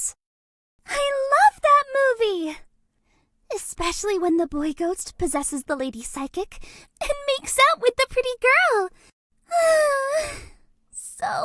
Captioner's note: sigh